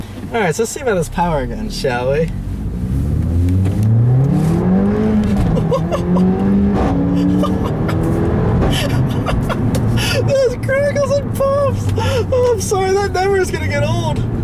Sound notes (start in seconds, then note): 5.1 laughs; 7.4 laughs at loud exhaust pop